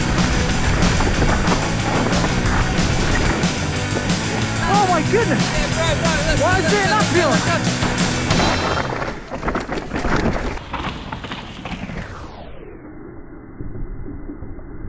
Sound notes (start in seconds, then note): 0.2 upbeat music; 8.7 wheels crunching; 12.1 bike swooshing